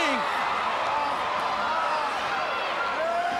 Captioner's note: crowd cheering